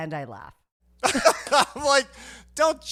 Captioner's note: laughing